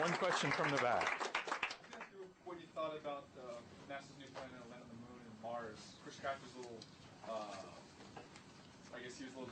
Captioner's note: applause